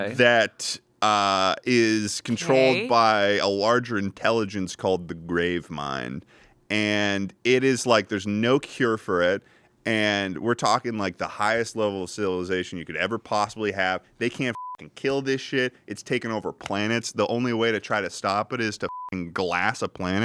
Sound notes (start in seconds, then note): 14.5 beep; 18.9 beep